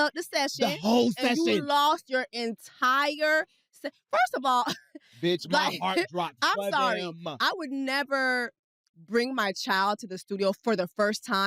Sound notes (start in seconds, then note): 5.2 chuckles